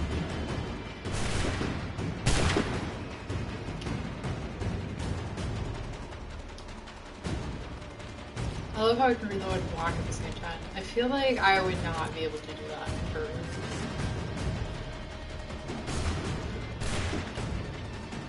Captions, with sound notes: [GUNSHOTS] I love how you can be loading and walk at the same time. I feel like I would not be able to do that for--